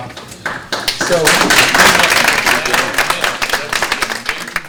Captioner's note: audience clapping